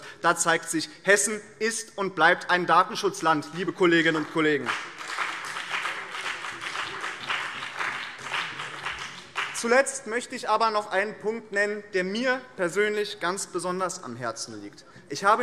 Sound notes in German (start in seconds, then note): 5.9 Beifall BÜNDNIS 90/DIE GRÜNEN